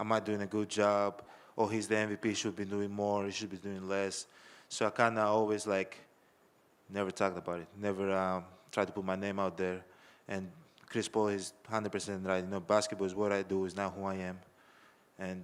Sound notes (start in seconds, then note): none